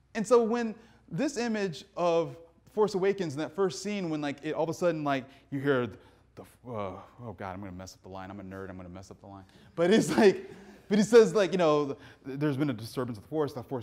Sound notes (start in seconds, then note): 9.7 audience laughing